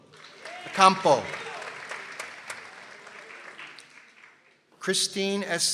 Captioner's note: people applauding